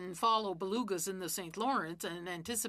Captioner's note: speaking French